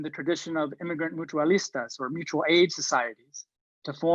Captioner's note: foreign language